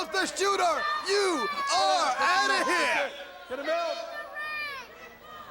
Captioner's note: crowd chatter